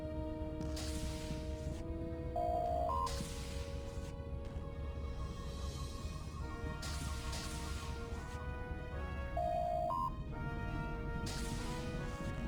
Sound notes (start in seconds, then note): 2.4 electronic sounds